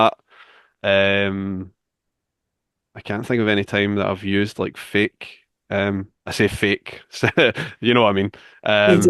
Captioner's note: chuckles